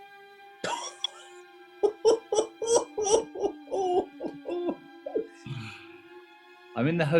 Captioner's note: laughing